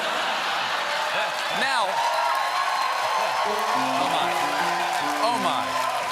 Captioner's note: laughter; cheers and applause; piano riff